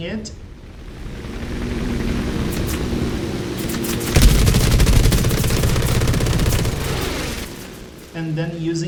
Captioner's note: engines, machine guns, flying sounds